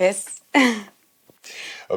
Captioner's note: laughing